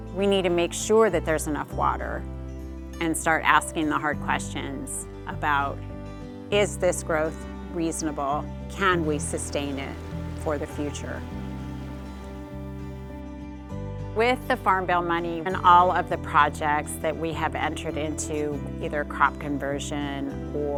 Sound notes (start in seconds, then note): 11.3 water sloshing; 13.8 gentle music continues